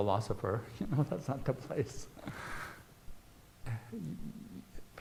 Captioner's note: laughs